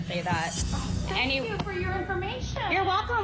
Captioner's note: sarcastically